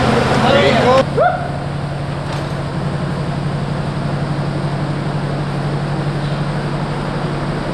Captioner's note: engine hums